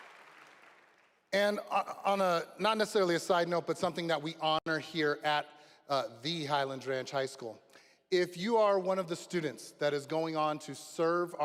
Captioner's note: applause